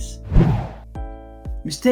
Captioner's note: air swooshing